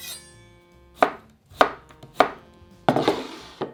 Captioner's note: knife cutting